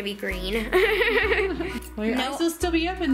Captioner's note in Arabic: يضحك